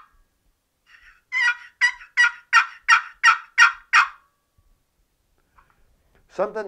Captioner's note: sound of a turkey yelp using the box call